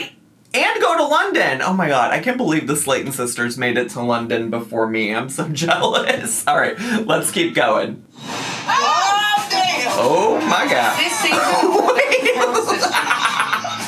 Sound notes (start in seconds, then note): 8.7 everyone exclaims; 11.2 laughs